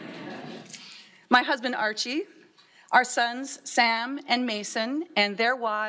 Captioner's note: laughter